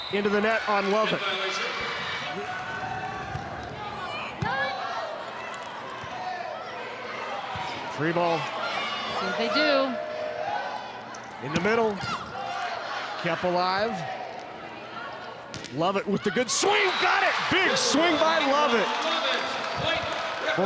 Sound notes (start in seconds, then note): 3.5 ball thumping; 4.6 players shouting indistinctly